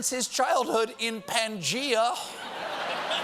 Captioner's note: laughter